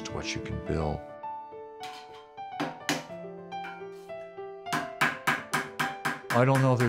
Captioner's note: hammering